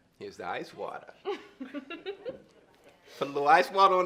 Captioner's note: laughs